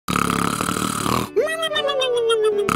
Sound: snoring

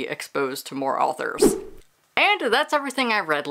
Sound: whoosh

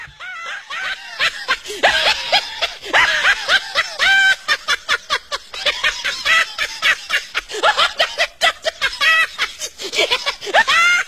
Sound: laughing

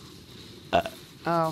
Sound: burp

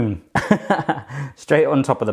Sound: laughs

